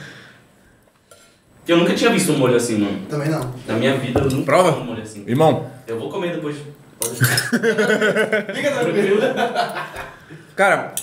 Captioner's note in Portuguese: risos